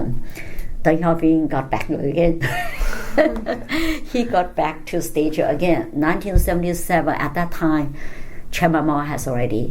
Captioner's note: all laugh